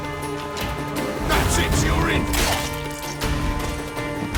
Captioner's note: gurgle